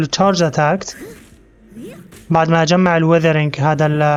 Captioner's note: grunts